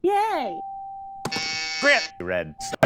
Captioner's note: buzzer